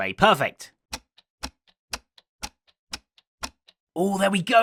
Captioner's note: clock ticking